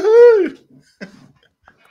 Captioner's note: laughs